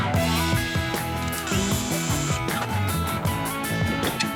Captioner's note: drill whirring